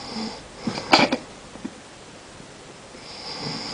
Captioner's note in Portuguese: Grande roncada